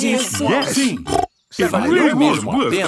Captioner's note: snorts